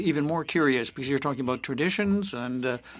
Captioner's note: speaking French